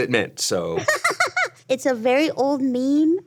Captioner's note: Ironmouse laughs